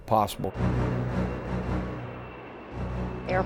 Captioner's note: Air Force One taking off